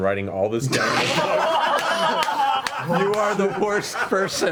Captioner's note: all laugh